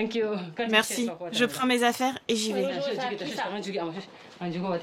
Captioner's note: dzongkha spoken audio